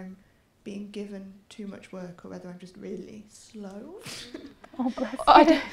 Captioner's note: laughter